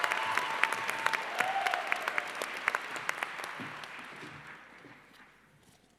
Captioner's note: applause